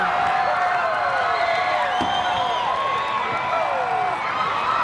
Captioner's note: crowd cheering